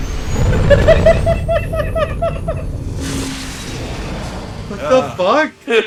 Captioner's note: laughing